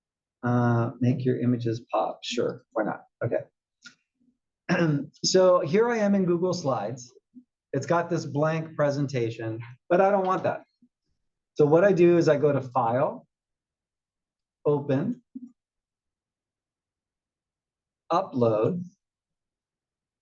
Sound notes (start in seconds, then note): 4.7 cough